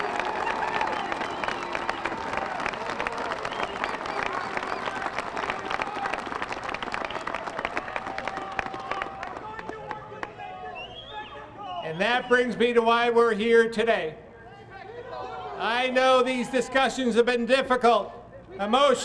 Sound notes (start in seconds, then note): 0.0 applause